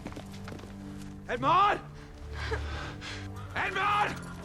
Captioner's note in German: Wimmert